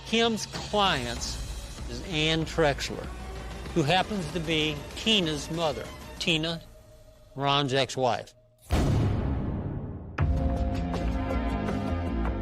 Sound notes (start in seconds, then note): 9.7 gun firing; 10.7 soft suspenseful music